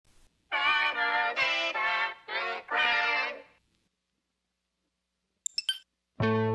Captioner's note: chime sounds as hits play